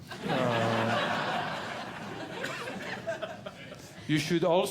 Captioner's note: audience Laughing